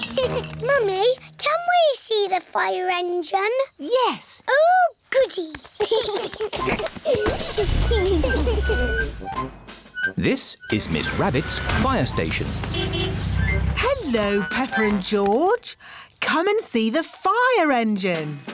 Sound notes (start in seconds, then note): 0.0 giggles; 5.8 both giggling; 12.6 horn honks